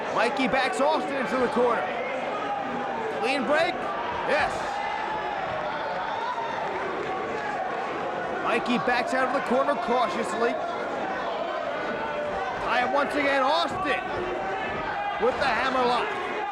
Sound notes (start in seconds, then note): 5.9 audience cheers